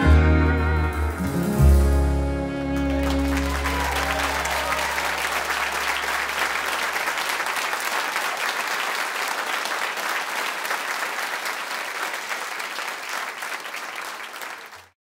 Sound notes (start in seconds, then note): 3.2 cheers and applause